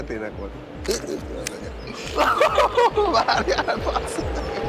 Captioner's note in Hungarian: laughs